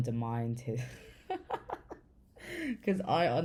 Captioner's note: laughs